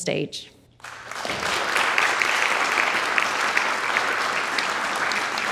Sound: audience applauding

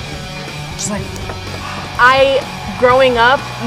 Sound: gasps

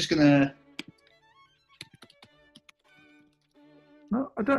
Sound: typing on keyboard

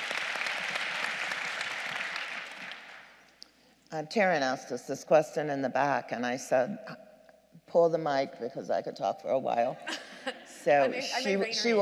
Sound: applause

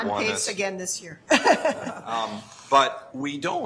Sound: laughs

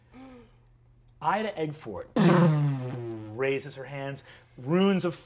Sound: imitates magic whirring

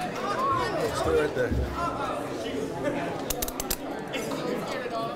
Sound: background chatter

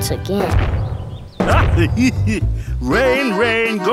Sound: laughing

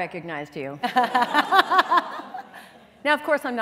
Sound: laughter

